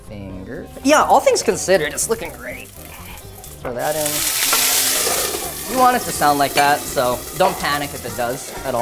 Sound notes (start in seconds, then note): 4.6 sizzling